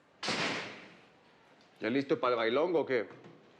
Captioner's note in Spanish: sonido al cerrar la puerta